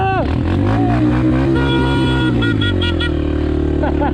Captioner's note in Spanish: bocina ruidosa